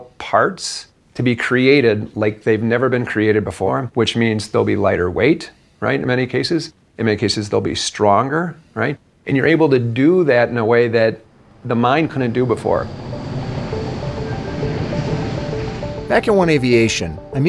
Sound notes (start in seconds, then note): 12.1 airplane engine